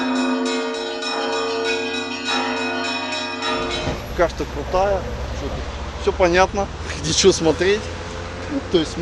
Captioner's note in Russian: колокольный звон